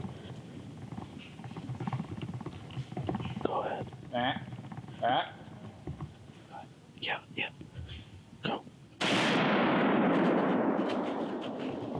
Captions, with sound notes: (deer call grunting) Yeah, yeah, now. (rifle bangs)